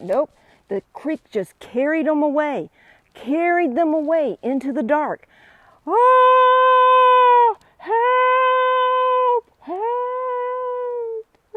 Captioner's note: screaming